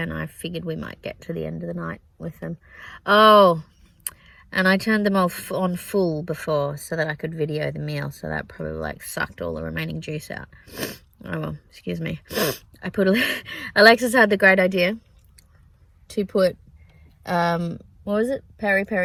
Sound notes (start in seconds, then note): 10.7 sniffs; 12.3 sniffs again; 13.9 laughs